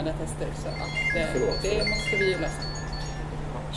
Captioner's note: phone rings